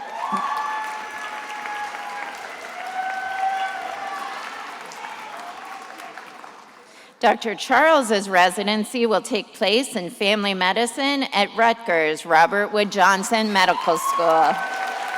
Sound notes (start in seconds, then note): 0.0 attendees applauding and cheering; 15.0 attendees applauding and cheering